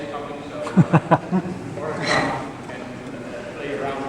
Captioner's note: laughs